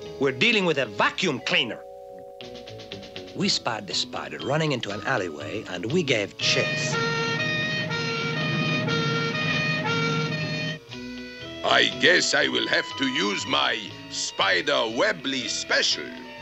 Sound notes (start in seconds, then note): 6.4 siren blaring